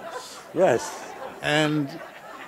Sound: background laughter

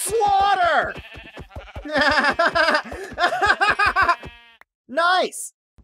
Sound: laughs maniacally

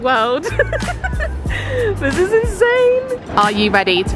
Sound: giggles

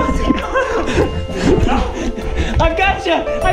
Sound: laughing

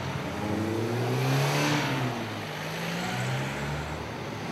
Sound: sound of cars passing

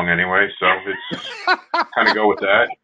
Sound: laughing

